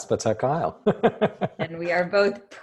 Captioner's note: laughter